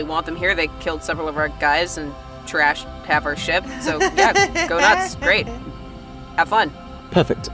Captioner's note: laughs